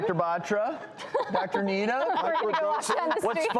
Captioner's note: all laugh; laughs